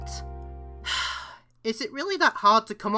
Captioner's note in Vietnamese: Thở dài